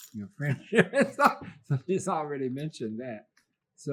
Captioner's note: laughs